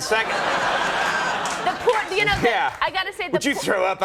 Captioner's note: audience laughing